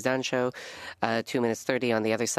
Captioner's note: speaking French